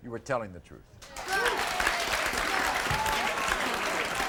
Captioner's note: audience cheers